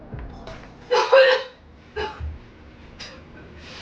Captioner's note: vomiting